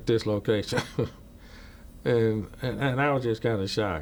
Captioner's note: chuckles